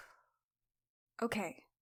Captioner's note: deep breath